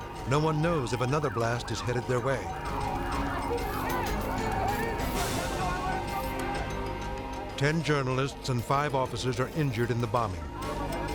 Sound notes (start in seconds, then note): 3.5 group chattering frantically